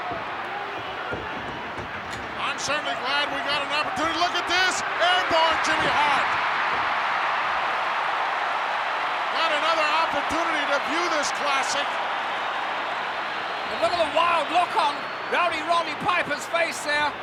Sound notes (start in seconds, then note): 6.3 crowd cheering